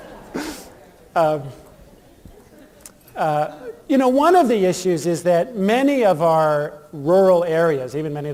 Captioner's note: laughter